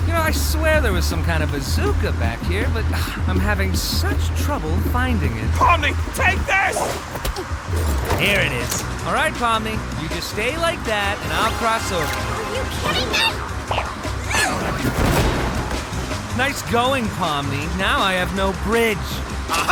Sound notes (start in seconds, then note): 5.5 scoffs